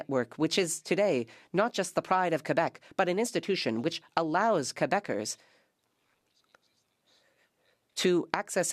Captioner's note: speaking French